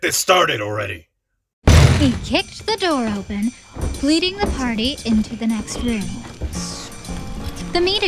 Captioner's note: sound of door being kicked